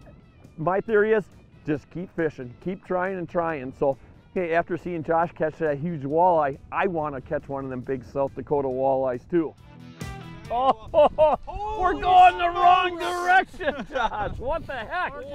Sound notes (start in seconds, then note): 10.5 laughing